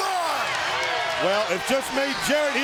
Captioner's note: crowd cheering